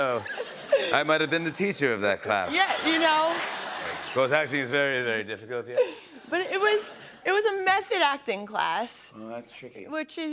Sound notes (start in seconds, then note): 2.2 laughter